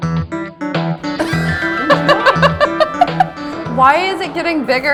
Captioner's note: laughing